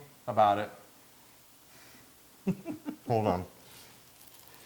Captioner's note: laugh